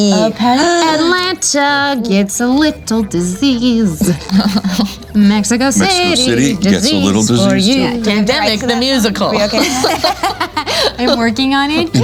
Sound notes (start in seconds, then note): 10.4 laughing